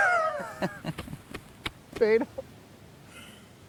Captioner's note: Dayne laughing; laughs